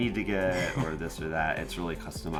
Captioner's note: laughs